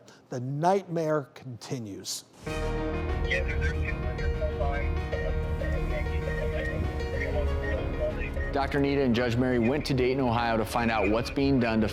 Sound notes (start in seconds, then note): 3.0 dramatic music; 5.2 radio chatter